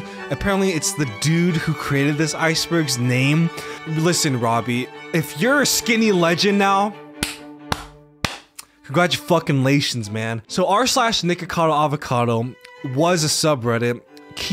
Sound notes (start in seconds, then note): 7.2 clapping